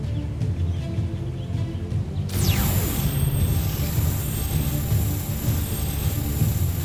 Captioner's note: energy whoosh-crackle